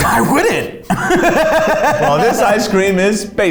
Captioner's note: laughing